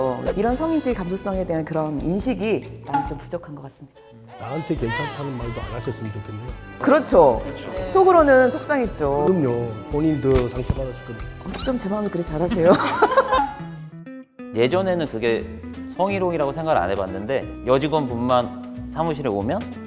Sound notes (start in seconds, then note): 4.4 upset